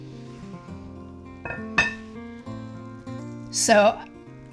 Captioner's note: bowl clanking